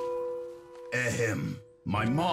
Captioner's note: clears throat